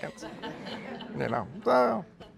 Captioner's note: laughter